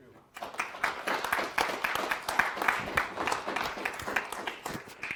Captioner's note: audience applauds